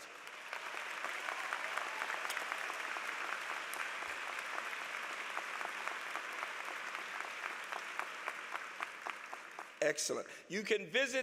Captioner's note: applause